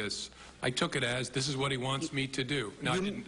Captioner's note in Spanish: habla en ingés